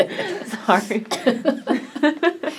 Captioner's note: laughs